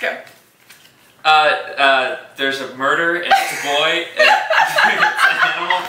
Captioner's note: obnoxious laughter